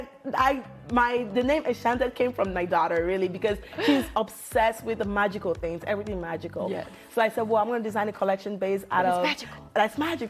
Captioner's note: laughter